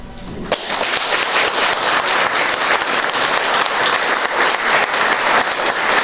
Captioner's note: applause